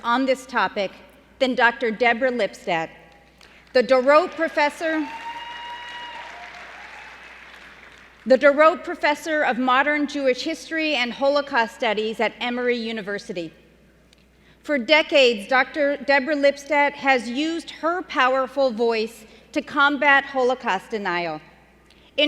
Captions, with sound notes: on this topic than Dr. Deborah Lipstadt, the Dorot professor-- [CHEERING AND APPLAUSE] --the Dorot professor of modern Jewish history and Holocaust studies at Emory University. For decades, Dr. Deborah Lipstadt has used her powerful voice to combat Holocaust denial.